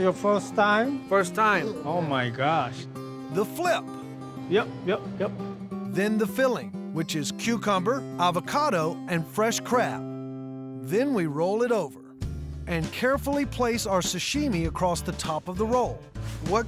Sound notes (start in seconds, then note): none